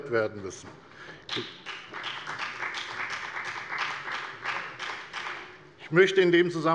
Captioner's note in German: Beifall bei der FDP